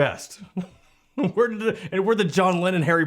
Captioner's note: laughs